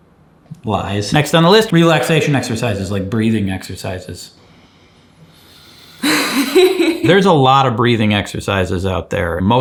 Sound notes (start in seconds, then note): 4.4 inhaling; 6.0 laughing